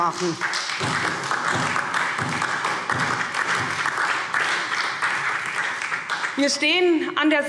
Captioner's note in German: Beifall SPD und DIE LINKE